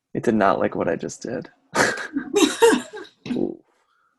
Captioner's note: laughs